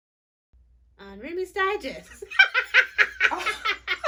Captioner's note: cracking up